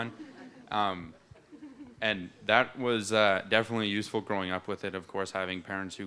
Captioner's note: laughter